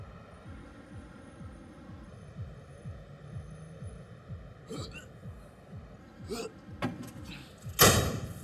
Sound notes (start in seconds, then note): 4.7 gagging